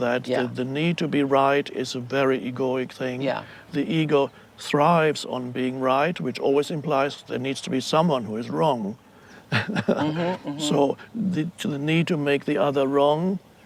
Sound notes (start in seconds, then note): 9.4 chuckles